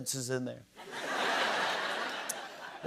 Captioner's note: laughter